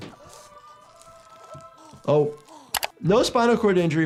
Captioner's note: victim 3 grunting